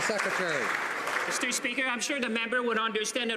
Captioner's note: some Applause